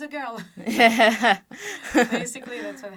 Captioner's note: laughter